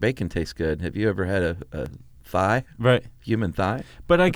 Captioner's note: laughs